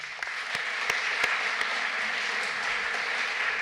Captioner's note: applause